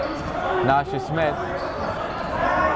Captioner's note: yelling